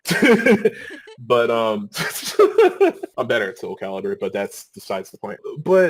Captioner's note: laughing